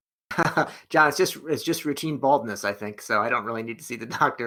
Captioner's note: laughs